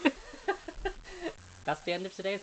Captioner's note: laughing